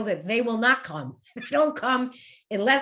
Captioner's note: laughs